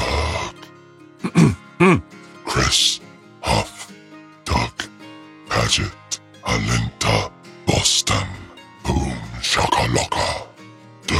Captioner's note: clears throat